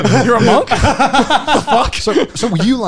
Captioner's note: laughing